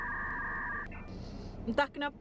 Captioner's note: takes a deep breath